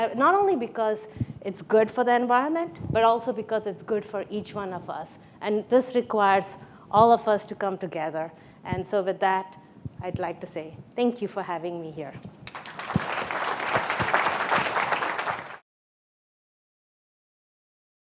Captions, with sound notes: Not only because it's good for the environment but also because it's good for each one of us. And this requires all of us to come together. And so with that, I'd like to say thank you for having me here. (lively music) (audience clapping)